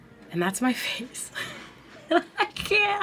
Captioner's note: chuckles